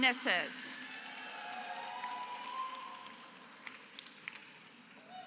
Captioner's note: applause